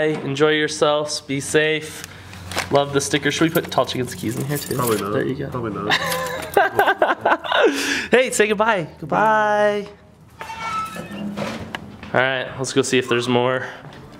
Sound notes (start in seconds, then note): 5.8 laughing; 10.9 closing mailbox door